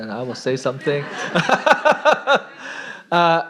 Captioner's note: laughter